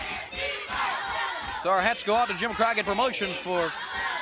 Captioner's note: crowd cheering